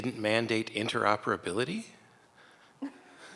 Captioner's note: chuckling